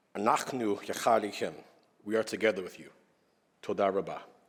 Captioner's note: speaking hebrew